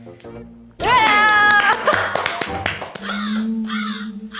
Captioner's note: big applause to start the show